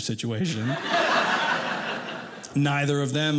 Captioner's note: audience laughing